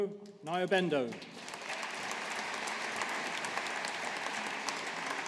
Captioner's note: audience applauding